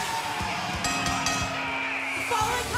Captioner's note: bell ringing